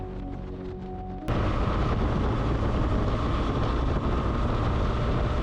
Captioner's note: engine rumbling